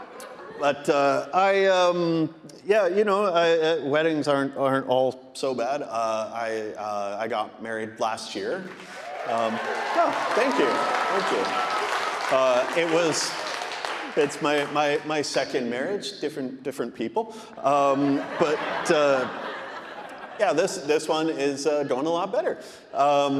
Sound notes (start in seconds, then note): 0.0 audience laughing; 8.5 audience applauding; 8.6 audience cheering; 17.7 audience laughing